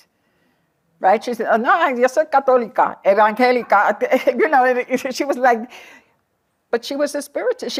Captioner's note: non-english